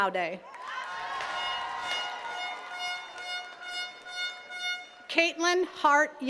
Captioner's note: attendees cheering and clapping